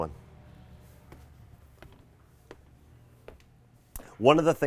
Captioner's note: footsteps clicking